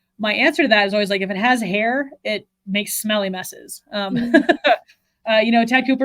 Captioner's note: laughs